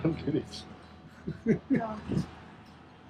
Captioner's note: laughs